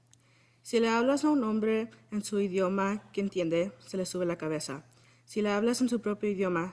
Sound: speaking in foreign language

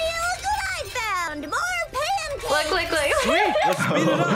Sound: laughs; chuckles

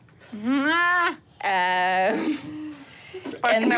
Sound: laughing

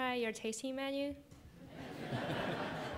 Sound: laughter

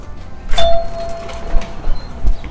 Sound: doorbell chimes

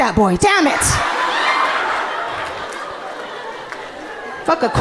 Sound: audience laughing amusingly

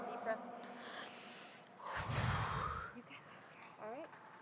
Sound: sighs

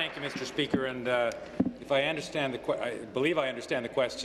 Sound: applause

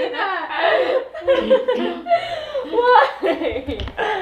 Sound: everyone laughing

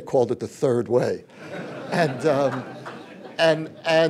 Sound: laughter

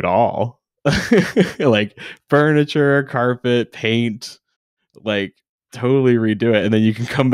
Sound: chuckles

